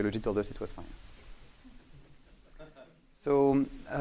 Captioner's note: laughing